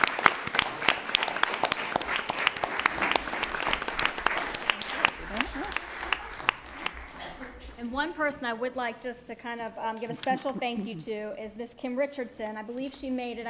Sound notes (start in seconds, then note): 8.0 applause